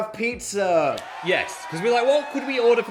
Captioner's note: crowd cheering